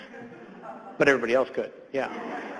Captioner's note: audience laughs